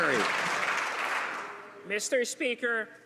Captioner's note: some Applause